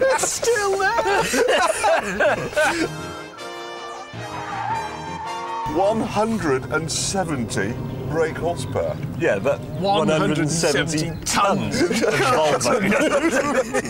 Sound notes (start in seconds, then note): 1.9 all laugh